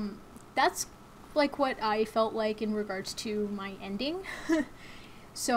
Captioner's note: chuckles